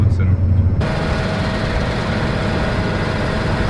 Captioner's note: engine noise